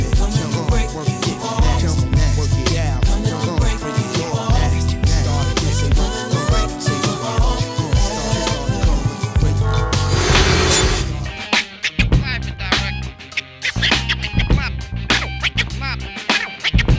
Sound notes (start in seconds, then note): 9.8 screen screeching; 11.0 aggressive music